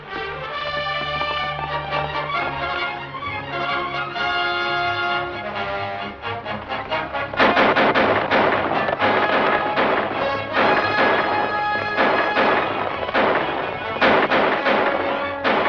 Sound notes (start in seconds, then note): 0.3 dramatic music; 7.3 gunshots